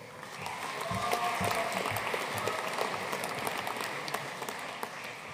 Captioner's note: audience cheering and applauding